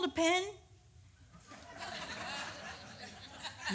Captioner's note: audience laughs